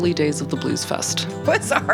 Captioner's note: laughing